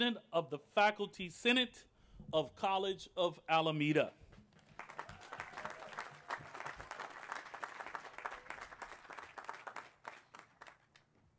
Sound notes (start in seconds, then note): 4.6 applause